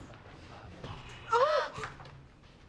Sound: ANNIE and SHIRLEY gasp

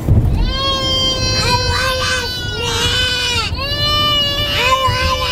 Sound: cries

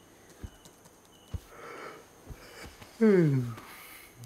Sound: yawning

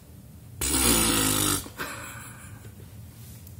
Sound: blows raspberry

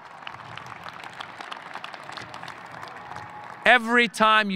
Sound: audience applauding

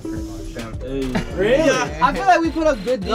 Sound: laughs

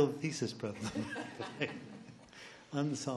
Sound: laughs

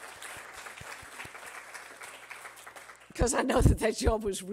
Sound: applause

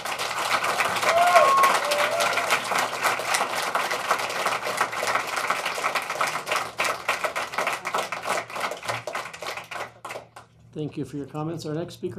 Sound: applause

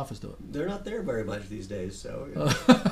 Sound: voiceover; laughs

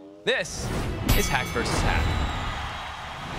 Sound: crowd cheers

